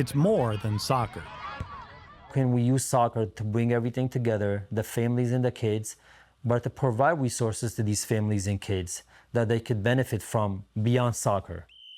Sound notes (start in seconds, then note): 1.8 crowd chattering